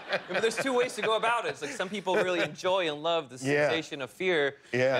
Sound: laughter

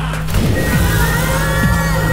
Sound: off-tune scream

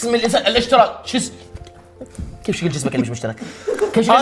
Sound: bites

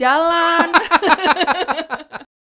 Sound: laughs

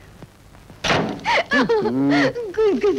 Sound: laughing

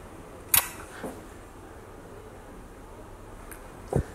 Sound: lips clicking

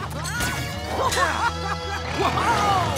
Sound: laughing

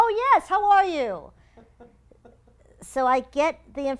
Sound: laugh

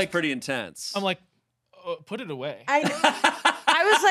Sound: laughing

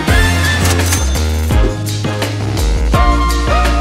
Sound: cash register rings

